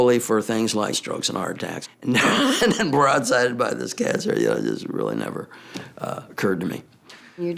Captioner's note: laugh